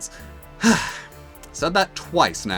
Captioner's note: sigh